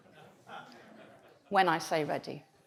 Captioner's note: audience laughs